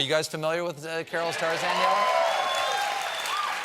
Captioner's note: applause